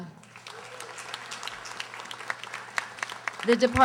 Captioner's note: audience applauding